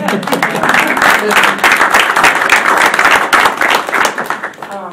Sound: audience applauding

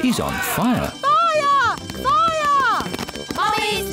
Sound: alarm blares

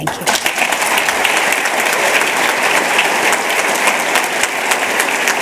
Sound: applause

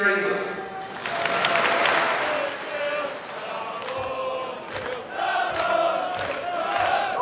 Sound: football chant

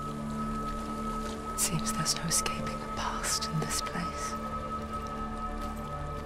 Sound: whisper

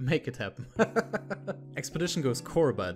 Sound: laughs

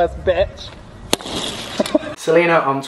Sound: smashing pallette

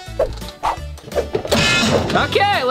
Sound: waffle iron bangs

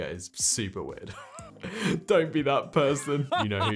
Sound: chuckling

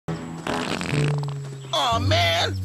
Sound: farts

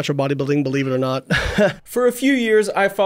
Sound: scoffs

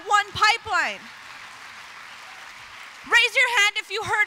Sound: applause

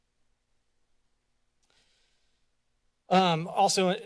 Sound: silence

